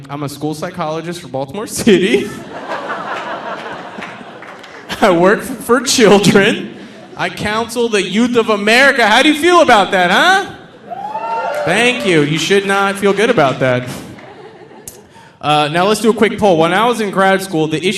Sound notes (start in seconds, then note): 1.9 audience laughing; 10.7 audience cheering